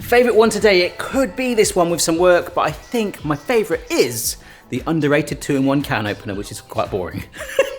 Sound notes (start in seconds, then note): 7.4 laughs